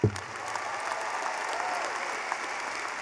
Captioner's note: clapping